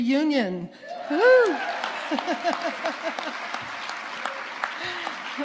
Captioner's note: audience cheering